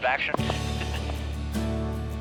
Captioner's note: pleasant acoustic guitar music; chuckles